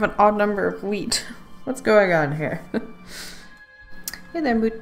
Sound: laughs

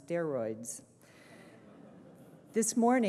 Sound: laughter

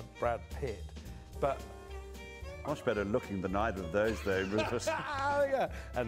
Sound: laughter

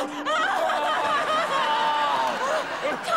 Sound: moaning

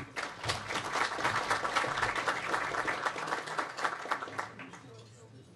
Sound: audience applauds

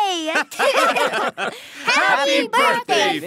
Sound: all laughing

